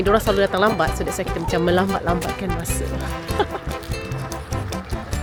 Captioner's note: laugh